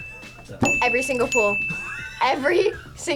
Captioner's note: React laughs